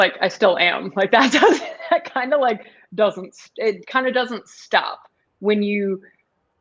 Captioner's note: laughter